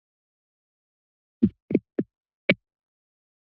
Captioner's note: silence; microphone thump noise